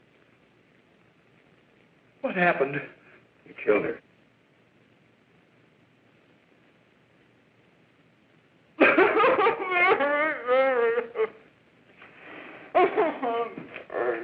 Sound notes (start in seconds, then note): 8.8 sobbing